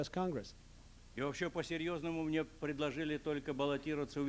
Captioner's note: non-english speech